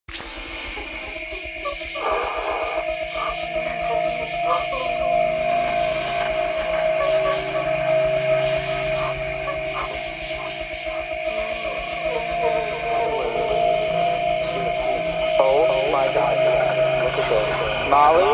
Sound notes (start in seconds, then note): 0.2 ominous music; 13.3 low echoing voice